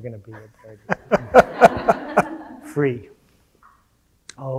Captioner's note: audience laughing